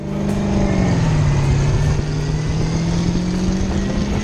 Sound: engine roars

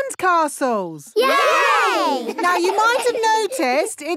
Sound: laughing

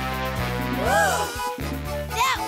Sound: sighing

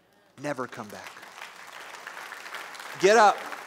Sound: applause

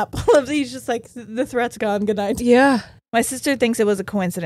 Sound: none

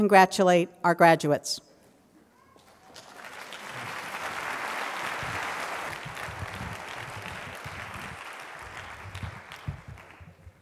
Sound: applause

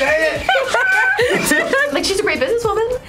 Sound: laughs

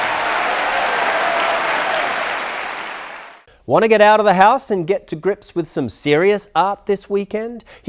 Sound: applause

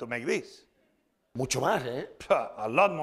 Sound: speaking spanish

